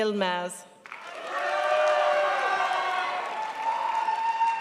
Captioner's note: crowd applauds